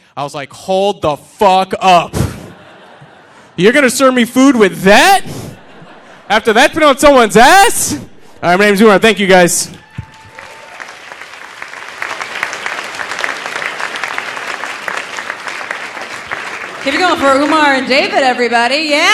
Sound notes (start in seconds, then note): 9.5 audience applauding; 10.2 audience cheering